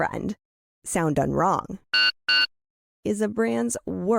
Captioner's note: generic POS sound